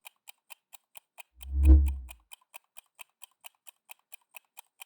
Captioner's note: clock ticking